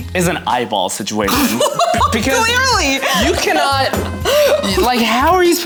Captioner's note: laughs